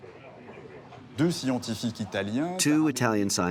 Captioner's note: speaking in foreign language